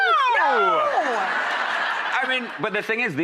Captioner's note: audience laughter